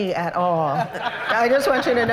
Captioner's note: laughter